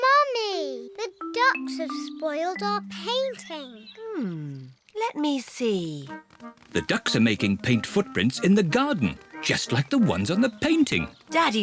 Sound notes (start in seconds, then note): none